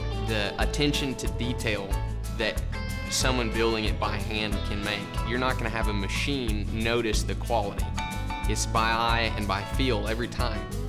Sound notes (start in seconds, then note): none